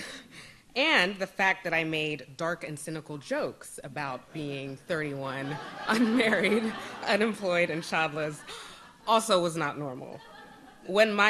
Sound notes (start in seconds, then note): 5.3 audience laughs